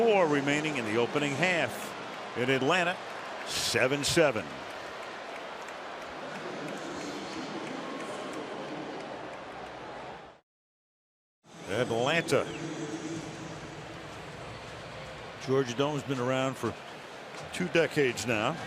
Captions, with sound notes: 10:54 remaining in the opening half in Atlanta, 7-7. [pa announcement] Atlanta, Georgia Dome has been around for two decades now,